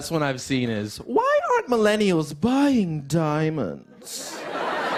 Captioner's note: haughty voice; laughter